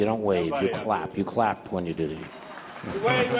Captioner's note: audience applauding